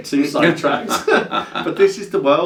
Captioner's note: both laugh